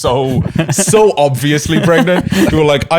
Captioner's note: laughing